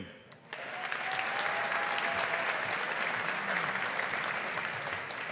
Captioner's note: audience applauding